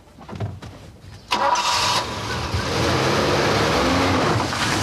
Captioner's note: engine rumbling